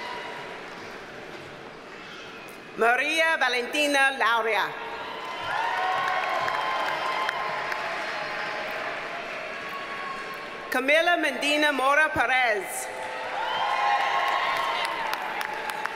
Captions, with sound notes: Maria Valentina Lauria. (audience cheers and applauds) Camila Medina Mora Perez. (audience cheers and applauds)